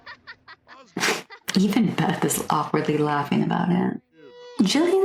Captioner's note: snicker